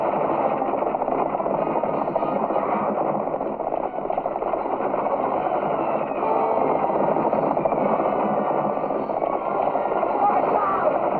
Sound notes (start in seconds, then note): 3.1 horses galloping; 9.0 tense music continues